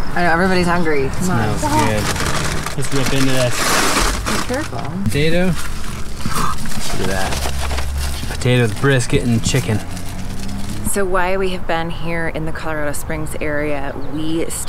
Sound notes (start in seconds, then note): 4.0 paper tears; 5.8 gasps